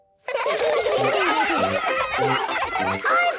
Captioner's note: excited laughter